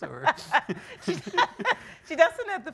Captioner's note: laughing